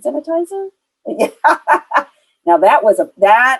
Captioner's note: laughs